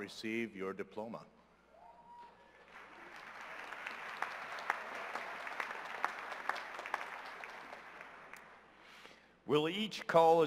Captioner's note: cheers and applause